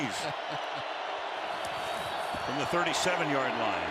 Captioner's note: laugh